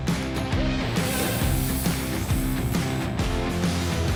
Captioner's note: sizzling